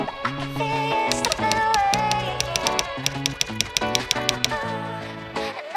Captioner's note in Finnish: kirjoituskoneen naputusta